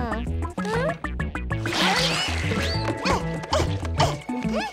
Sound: grunting

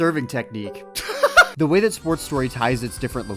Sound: laughter

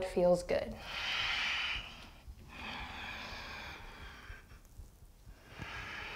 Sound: deep breathing

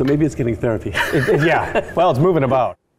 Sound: laughing

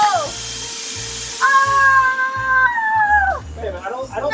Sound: assistant screaming

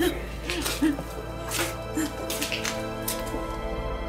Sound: crying

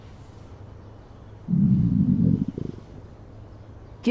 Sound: Max's stomach growling

